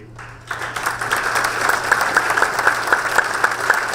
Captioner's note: audience applause